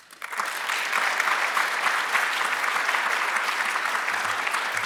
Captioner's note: audience applauding